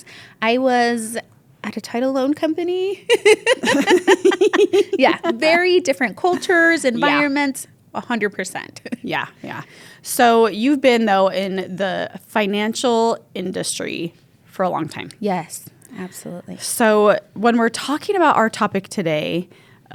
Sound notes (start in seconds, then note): 2.9 both laugh